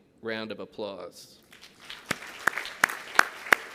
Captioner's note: applause